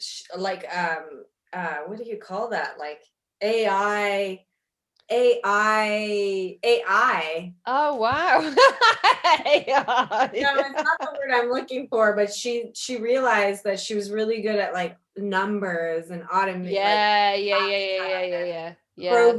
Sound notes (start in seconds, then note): 8.4 laughs